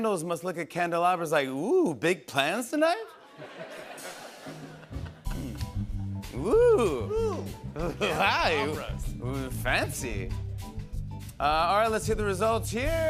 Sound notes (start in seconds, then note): 3.1 laughter